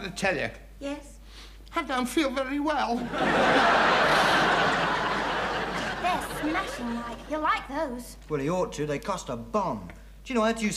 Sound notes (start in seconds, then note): 3.0 audience laughing